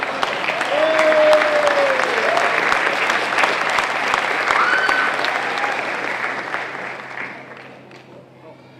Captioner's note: applause